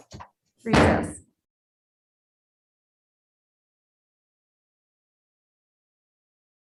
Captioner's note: gavel thudding